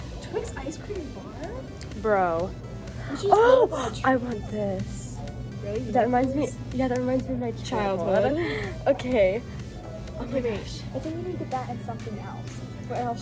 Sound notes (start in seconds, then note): 3.6 gasp